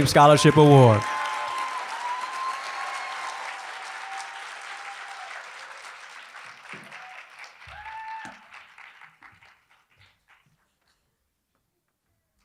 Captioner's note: applause